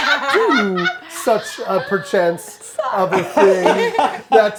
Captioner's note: laughter; overlapping chatter